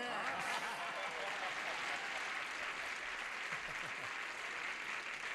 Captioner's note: applause